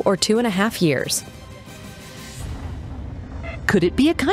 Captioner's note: sirens